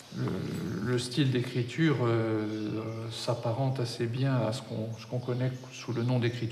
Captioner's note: speaking in a foreign language